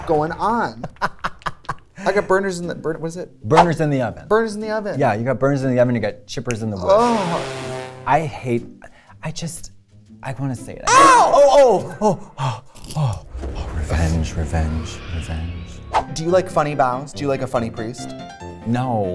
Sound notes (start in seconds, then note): 0.8 laughs; 10.8 screams